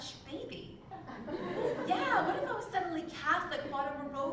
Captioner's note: laugh